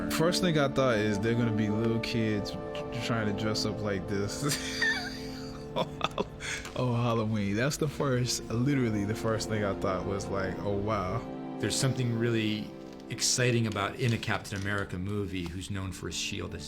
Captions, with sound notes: First thing I thought is, there're gonna be little kids trying to dress up like this... (LAUGHS) ...on Halloween. That's literally the first thing I thought, was like, "Oh, wow." There's something really exciting about, in a Captain America movie,